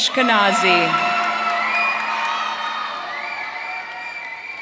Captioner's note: audience cheering